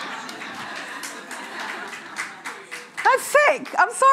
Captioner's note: audience applauding